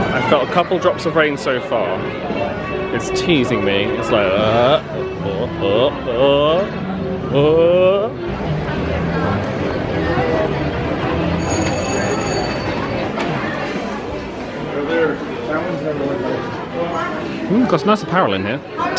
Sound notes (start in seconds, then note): 11.3 bell rings